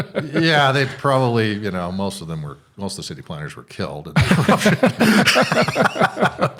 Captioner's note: chuckling